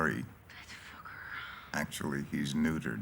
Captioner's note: sighs